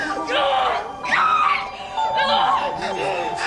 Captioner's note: screams